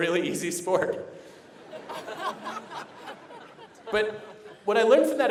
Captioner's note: laughter